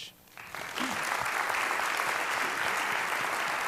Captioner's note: applause